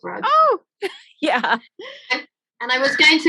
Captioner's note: laughing